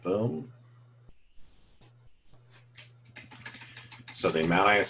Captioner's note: typing Sounds